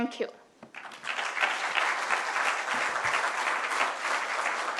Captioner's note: applause